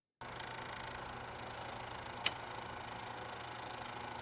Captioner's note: film reel whirring